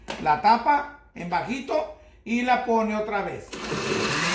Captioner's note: blending